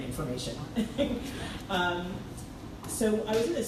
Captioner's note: laughs